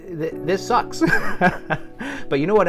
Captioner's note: laughs